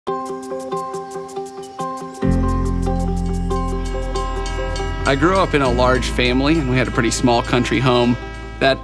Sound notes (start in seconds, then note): 0.3 bright music; 3.7 train horn blowing